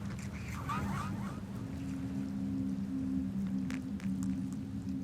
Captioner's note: distant thunder booms; eerie music